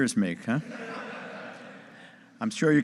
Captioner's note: audience laughing